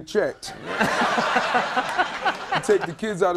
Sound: audience laughing

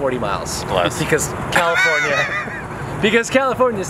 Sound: laughs

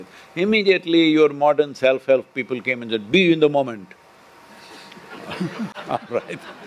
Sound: laughter

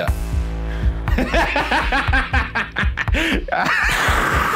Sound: laughs

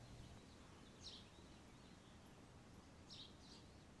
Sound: birds tweeting

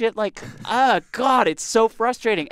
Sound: chuckles

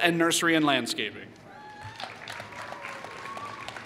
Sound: applause

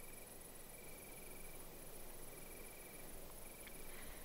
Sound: night sounds

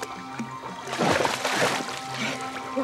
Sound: water splashing

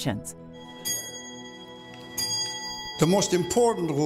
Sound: ringing

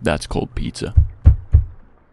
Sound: knock Knock Knock

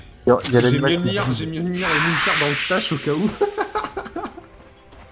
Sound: laughs

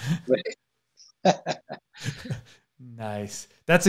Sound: both laughing

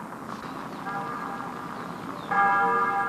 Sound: church bells ringing from radio

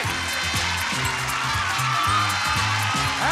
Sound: audience applauding

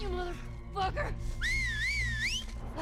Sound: whistle

